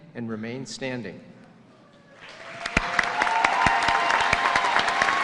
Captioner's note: cheers and applause